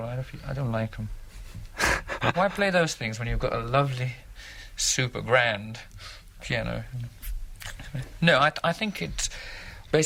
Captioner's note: laughter